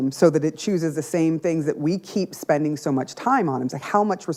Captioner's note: none